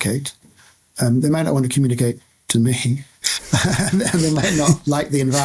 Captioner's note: haha!